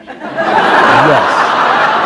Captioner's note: laughter